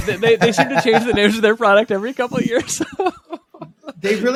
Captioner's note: chuckles